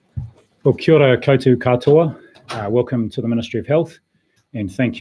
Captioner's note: non-english speech